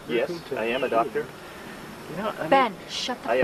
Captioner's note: Ben mumbling Elvis